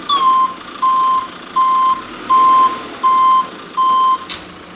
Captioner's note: telehandler beeping